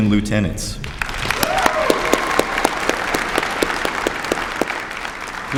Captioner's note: applause